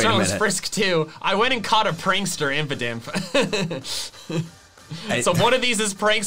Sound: chuckles

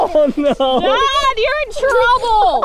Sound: laughing

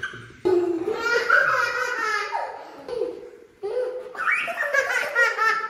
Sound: more Laughter

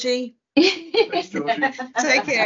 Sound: laughs

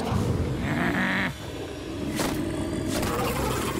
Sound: growling

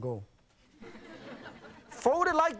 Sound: audience laughing

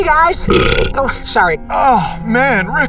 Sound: burps

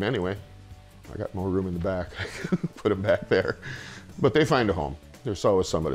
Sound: laughs

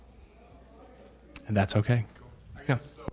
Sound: people chattering

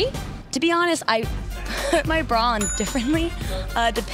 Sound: laughs

